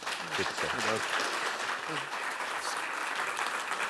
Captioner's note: Aplodeja